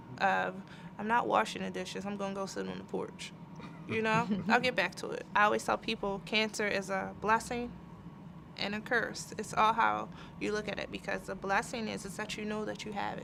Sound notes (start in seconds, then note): 3.6 laugh